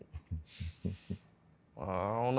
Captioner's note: chuckles